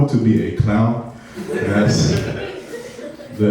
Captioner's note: laughing